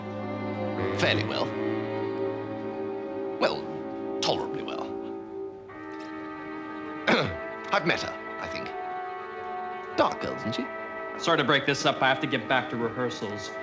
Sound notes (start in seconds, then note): 7.0 coughs